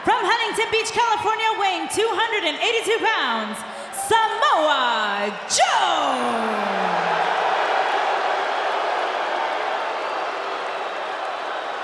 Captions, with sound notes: from Huntington Beach, California weighing 282 pounds, Samoa Joe! (crowd cheers and boos)